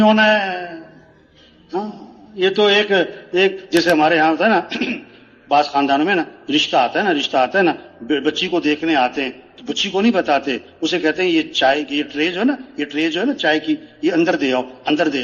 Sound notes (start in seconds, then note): 4.6 गला साफ करते हुए